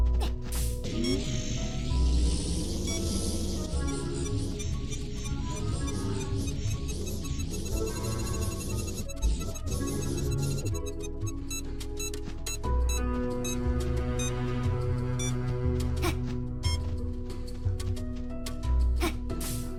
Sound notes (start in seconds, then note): 0.2 tranquil ambient music; 2.9 machine beeping; 15.9 player grunts; 19.0 player grunts